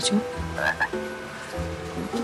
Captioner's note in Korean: 긁적